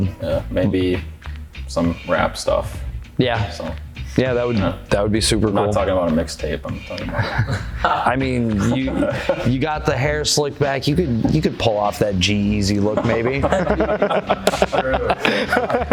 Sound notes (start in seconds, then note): 6.6 laughing; 12.8 laughing